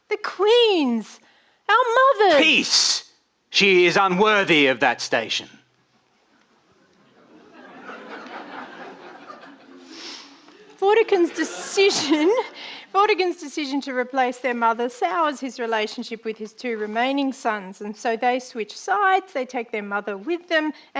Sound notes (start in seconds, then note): 6.6 audience laughing